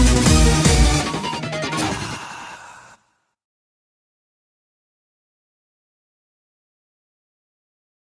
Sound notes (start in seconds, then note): 1.8 awkward male moan